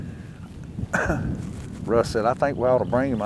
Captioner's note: coughing